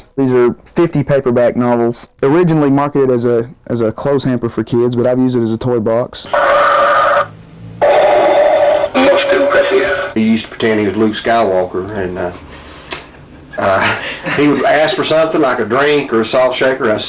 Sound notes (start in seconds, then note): 6.2 heavy breathing